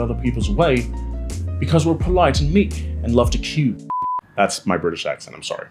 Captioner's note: beep